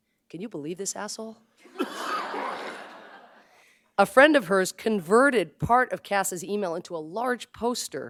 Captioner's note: laughter